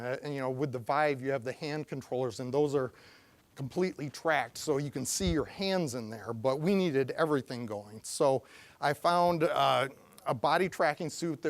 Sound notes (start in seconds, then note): none